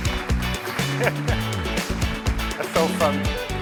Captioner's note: audience applauds